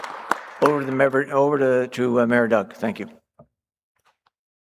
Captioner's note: applause